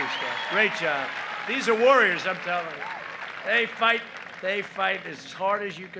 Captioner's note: applause